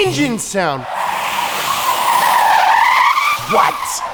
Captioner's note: tires screeching